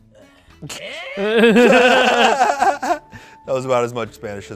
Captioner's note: laugh